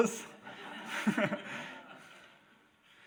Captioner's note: audience laughs